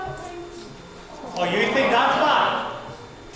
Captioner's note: audience awws